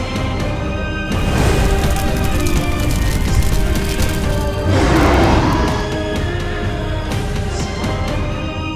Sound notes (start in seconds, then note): 4.5 A beast roars